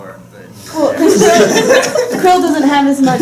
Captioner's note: laughter